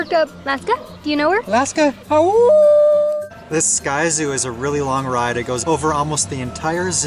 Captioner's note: howl